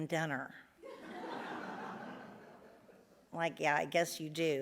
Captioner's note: audience laughs